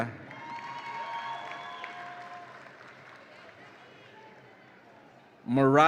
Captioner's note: audience applauds and cheers